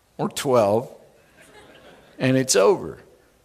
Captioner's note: chuckling